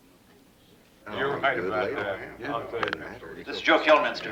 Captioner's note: chattering